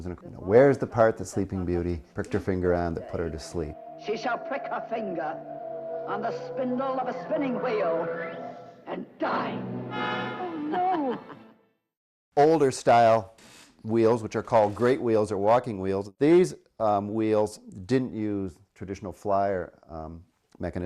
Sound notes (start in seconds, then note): 9.1 cackling; 9.1 sinister music